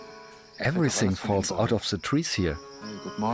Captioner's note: in German